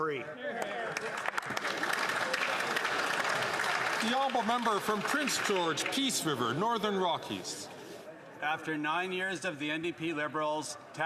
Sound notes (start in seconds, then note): 6.1 some Applause